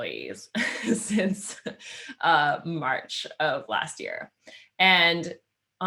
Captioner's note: laughing